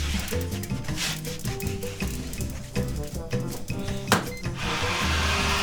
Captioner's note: gentle music; tray rustling; oven door thudding; button beeps; steam hissing